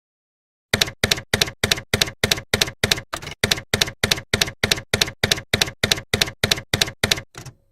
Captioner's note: typewriter keys clacking